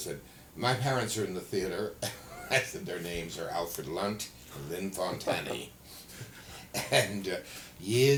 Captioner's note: laughter